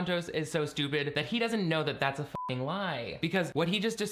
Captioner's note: beeping